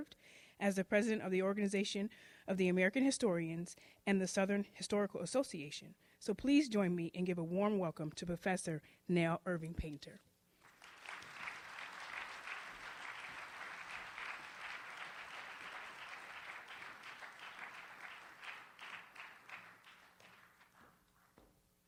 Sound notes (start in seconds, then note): 10.6 audience applauds